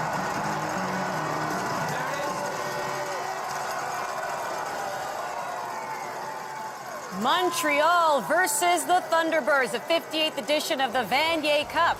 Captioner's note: cheers and Applause